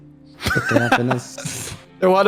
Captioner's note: laughs